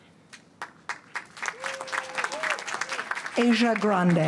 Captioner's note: applause